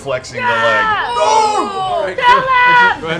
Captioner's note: yelling